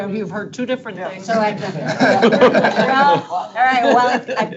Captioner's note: board members laughing